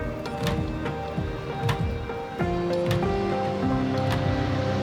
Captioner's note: humming traffic